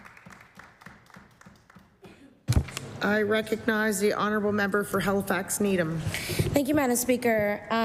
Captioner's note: applause